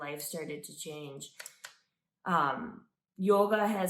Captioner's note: stick clicking